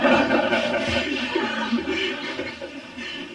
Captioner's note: laughter